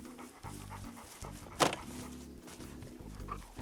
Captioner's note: dog panting